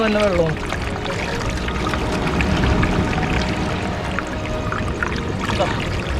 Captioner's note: trickling of water